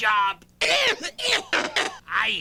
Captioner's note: pitchshifted coughing